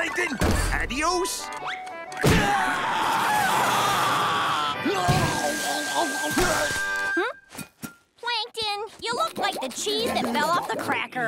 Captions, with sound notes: Adios! [screaming] Hmm? Plankton, you look like the cheese that fell off the cracker.